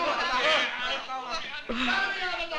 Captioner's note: Malay spoken audion